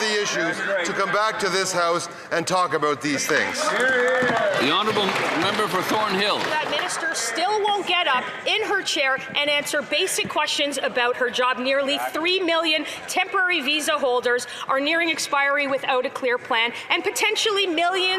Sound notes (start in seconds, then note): 7.8 some Applause